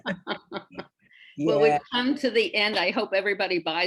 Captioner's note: both laughing